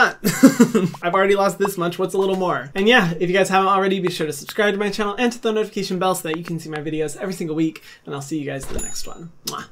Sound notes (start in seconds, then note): 0.3 laughs; 9.4 kisses